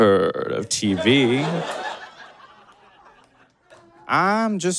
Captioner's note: audience giggles profusely